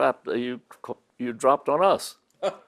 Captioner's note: laughs